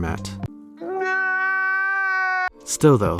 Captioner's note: cries